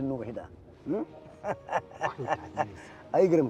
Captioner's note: laughs